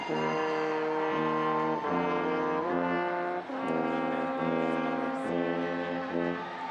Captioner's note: audience applauding and cheering continues